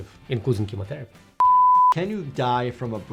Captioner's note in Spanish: suena un pitido